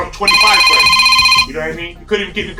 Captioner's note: phone rings